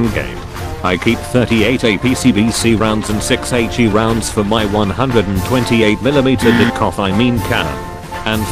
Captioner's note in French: tousse